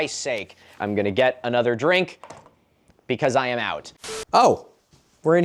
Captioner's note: ”signal lost” beep